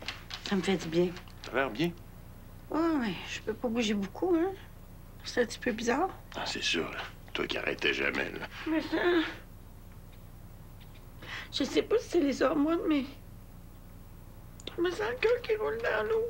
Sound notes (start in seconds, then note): 8.7 Pleurs